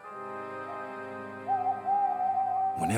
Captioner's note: hooting